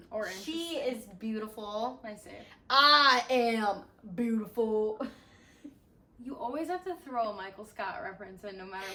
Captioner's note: Michael Scott voice